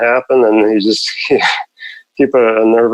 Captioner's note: laughs